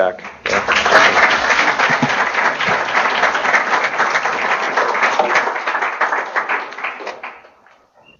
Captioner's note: applause